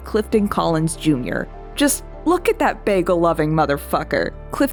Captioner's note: with great affection